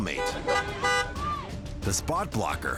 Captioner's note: horn honking